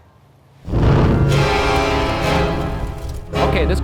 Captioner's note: smoke whooshing; intense eerie music